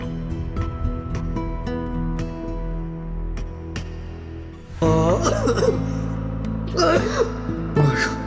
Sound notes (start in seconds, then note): 5.0 cough; 6.7 hard caugh